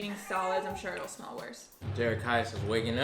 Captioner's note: whining